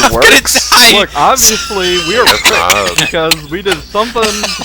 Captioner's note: wheeeze; wheeeze